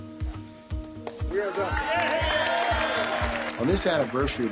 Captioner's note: roaring Applause